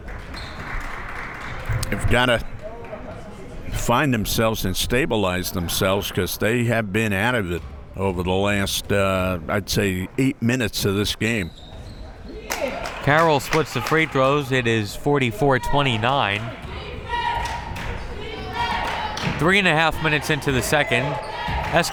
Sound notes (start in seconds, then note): 0.0 crowd members clapping; 16.6 crowd members chanting